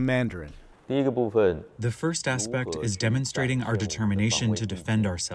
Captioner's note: through translator